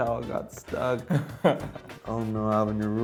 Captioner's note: laughs